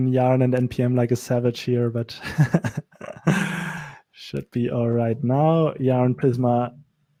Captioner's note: laughs